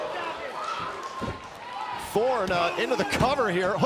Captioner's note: crowd chatter